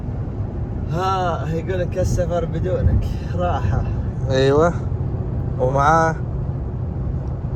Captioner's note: Arabic